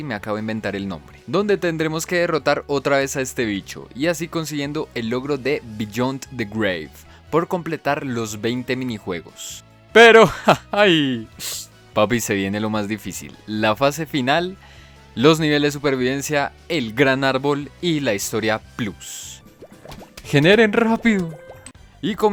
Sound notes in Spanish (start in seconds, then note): 10.2 risas